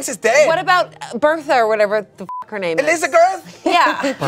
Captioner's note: beep